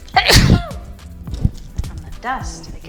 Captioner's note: sneeze